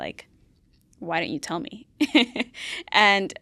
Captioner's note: laughs